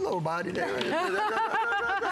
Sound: laughter

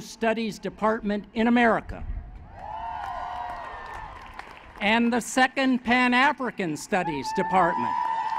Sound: applause; applause

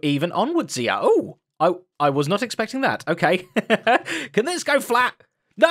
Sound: laughs

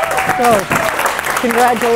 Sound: students clapping and cheering

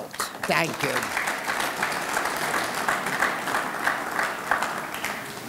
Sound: audience clapping

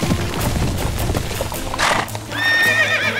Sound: horse neighing

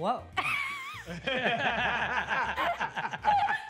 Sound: laughing

